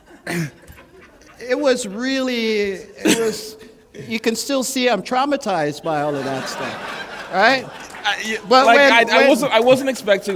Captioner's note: laughter